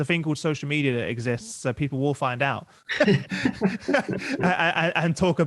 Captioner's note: laughs